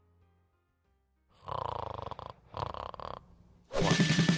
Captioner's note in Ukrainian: голос з-за кадру; храп; динамічна весела музика